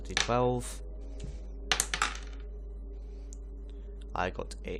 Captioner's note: rolls die